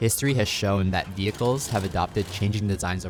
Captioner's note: vehicles revving